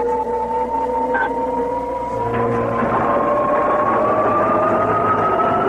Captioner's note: pod Engine Revving